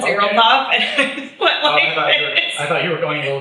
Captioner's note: laughs